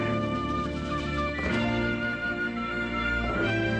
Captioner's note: whistling